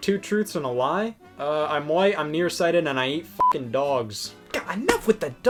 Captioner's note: beep